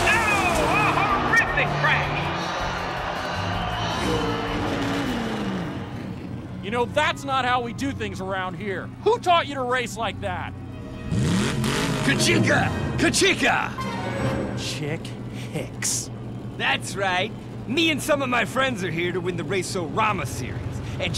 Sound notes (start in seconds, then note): 11.1 vrooming